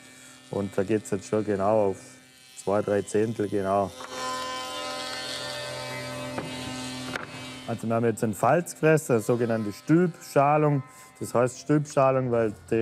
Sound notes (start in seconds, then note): 3.9 loud machine whirring